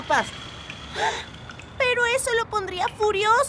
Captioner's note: gasping